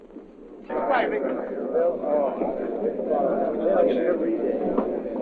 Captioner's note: sailors chattering